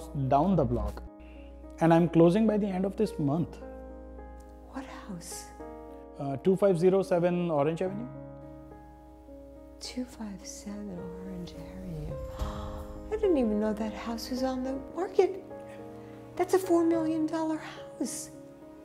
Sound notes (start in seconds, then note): 12.2 gasps